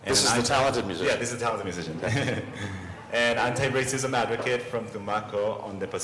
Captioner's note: laughter